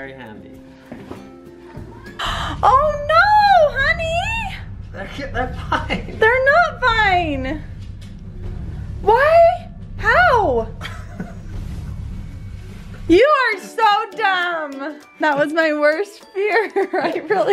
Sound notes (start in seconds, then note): 2.1 gasps; 10.8 laughs